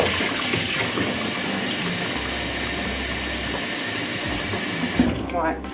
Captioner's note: water running